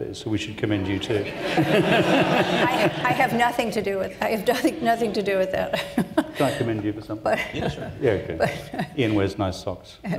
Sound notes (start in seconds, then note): 0.8 audience laughs; 5.7 laughs